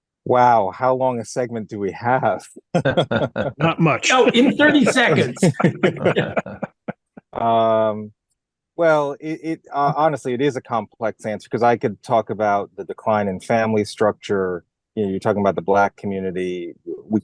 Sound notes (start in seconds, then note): 2.3 laugh